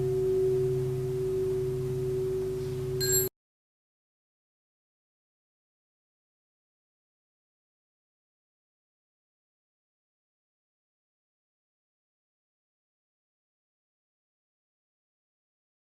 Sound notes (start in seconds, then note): 2.0 small bell